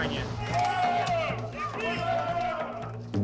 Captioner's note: cheering